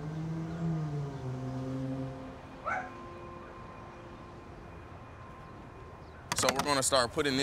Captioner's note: distant dog barking